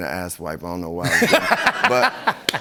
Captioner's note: laughter